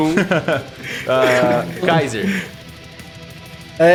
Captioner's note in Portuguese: risada